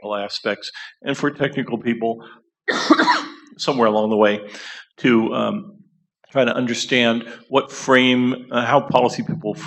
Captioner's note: coughs